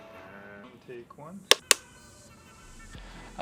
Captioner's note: click